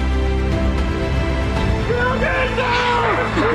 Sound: screaming

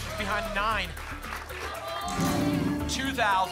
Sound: applause

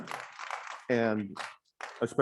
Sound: audience clapping

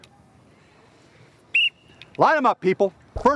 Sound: whistle blowing

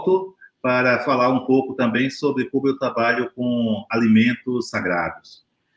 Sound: speaks portuguese

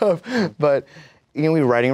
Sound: laughs

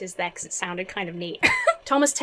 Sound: giggles

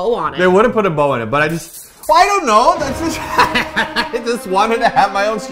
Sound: glass shattering; laughs

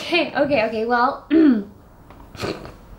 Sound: clears her throat; emma nervously snickcers

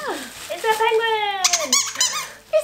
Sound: squeaks toy

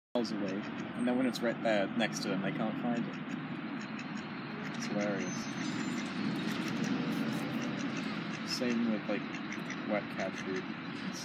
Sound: duck noises

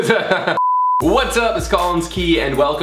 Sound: Collins laughs loudly

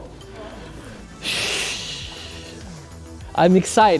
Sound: sighs

